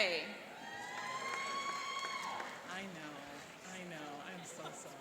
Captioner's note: cheering and applauding